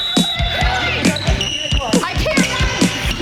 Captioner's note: whistle blows